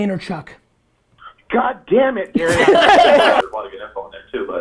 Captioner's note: group laughter